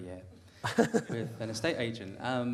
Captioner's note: laugh